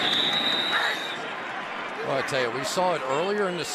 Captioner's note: whistles